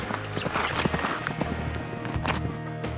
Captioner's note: smooch sound